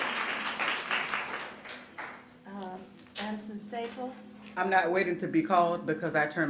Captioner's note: applause